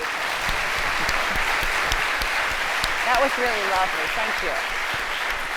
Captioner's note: applause